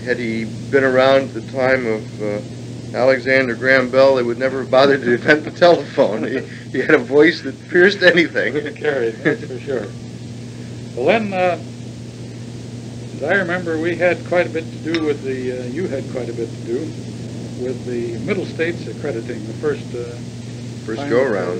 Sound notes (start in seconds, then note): 5.0 laughs; 8.6 chuckles